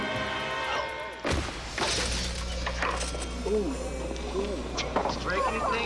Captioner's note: body thumps, bike clatters